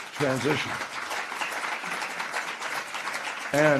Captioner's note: applause